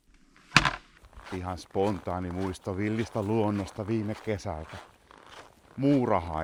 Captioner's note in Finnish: luistelun ääntä